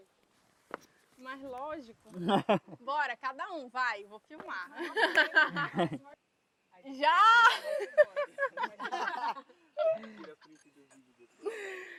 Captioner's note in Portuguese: risadas